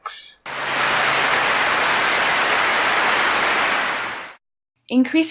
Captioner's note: clapping